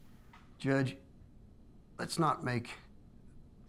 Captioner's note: none